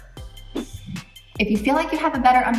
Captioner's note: air whooshes